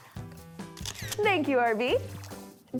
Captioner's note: camera clicks